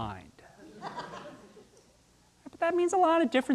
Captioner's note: audience laughing